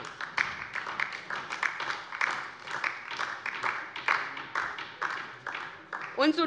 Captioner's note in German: Beifall DIE LINKE